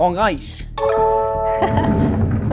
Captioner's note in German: Klingeln